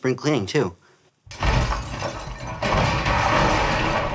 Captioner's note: distant clattering